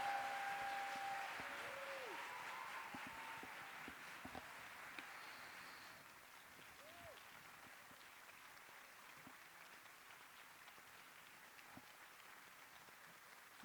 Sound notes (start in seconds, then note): 3.1 cheers and applause